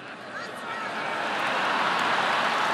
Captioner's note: laughter and applause